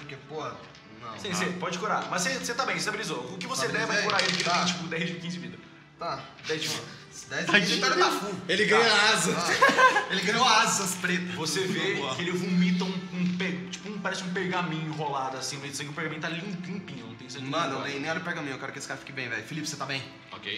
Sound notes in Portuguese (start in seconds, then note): 9.3 Risada